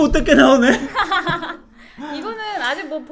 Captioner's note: laughing